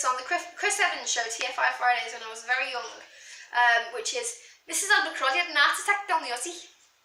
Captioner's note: bad scouse accent